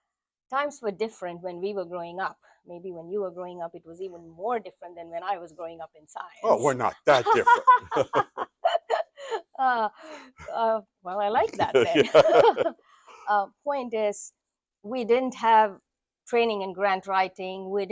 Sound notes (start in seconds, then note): 7.0 both laughing; 11.5 both laughing